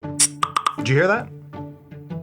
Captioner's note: Slack notification sound